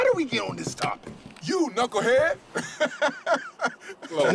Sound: laughing

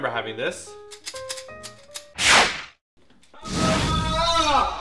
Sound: click, click, click, click

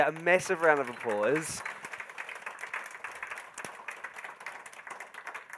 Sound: attendees clapping

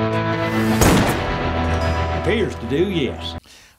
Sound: gun firing

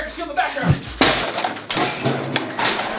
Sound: crash

